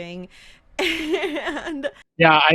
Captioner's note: laughing